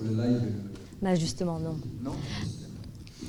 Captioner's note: speaking in French